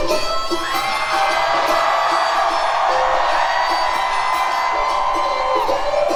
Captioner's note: upbeat country music; audience cheering loudly